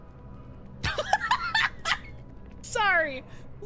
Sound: laughter

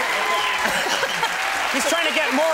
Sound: audience cheers

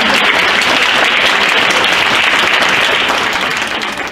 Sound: crowd applauds

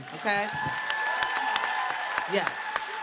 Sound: cheering

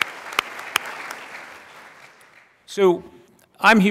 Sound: applause

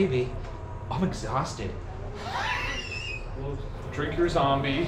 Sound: laughing

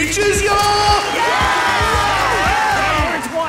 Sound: all cheering

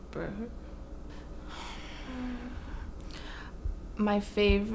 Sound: groan

